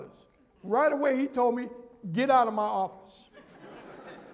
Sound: laughter

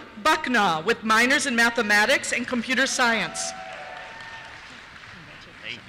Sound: cheers

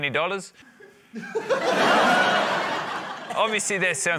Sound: laughter

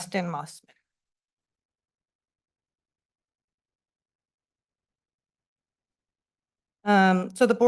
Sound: silence

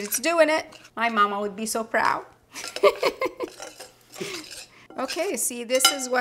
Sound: giggling

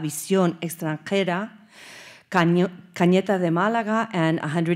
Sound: speaking Spanish

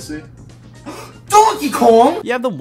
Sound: gasps

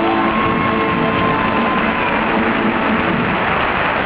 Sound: crowd cheering

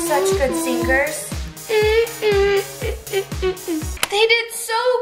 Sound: humming

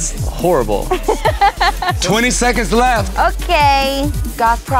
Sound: laugh

